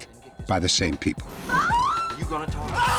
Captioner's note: screaming